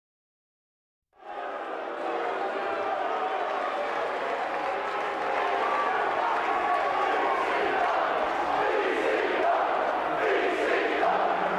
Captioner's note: crowd cheering